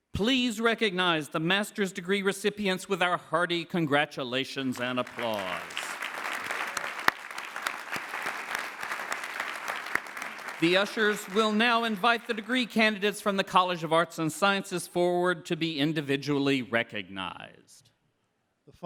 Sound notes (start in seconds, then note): 4.6 clapping